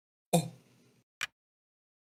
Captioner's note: stammers